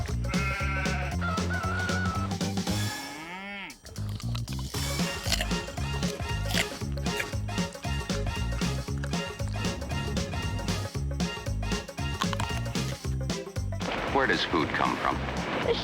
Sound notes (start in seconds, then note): 0.2 baaing; 0.3 crowing; 2.8 mooing; 3.8 crunching